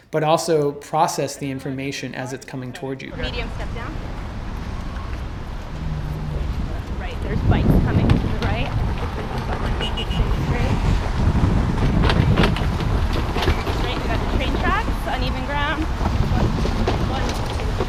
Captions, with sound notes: But also process the information as it's coming toward you. [guide calls out obstacles in road]